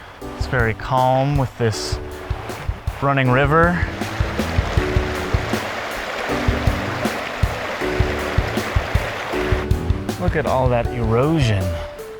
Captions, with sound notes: It’s very calm with this… running river. [ Water running ] Look at all that erosion!